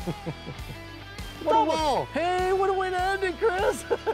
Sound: laughs

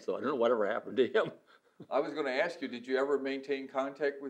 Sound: laughs

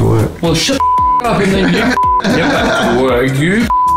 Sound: laughing

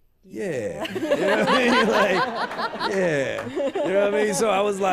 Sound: laughter

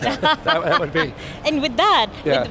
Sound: laughing

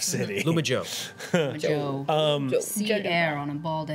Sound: laughs

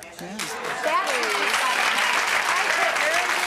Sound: applause

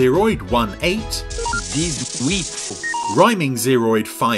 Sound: electronic beeping

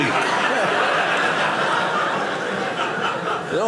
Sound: audience laughing

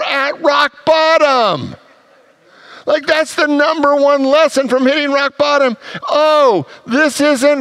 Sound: congregants laugh

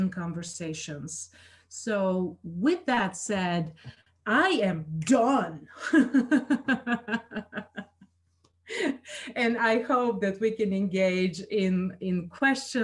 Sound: laughs

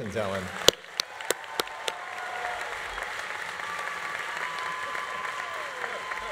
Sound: audience applauding; audience cheering

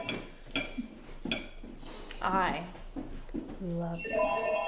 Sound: phone ringing

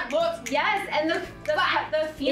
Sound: fingers snapping

